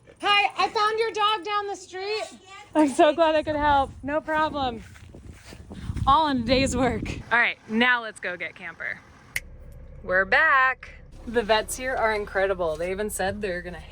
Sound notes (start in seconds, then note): 9.2 snaps fingers